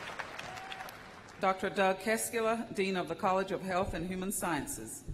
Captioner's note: cheers and applause